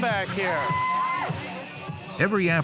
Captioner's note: hollers